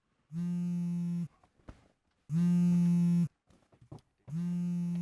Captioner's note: cellphone vibrating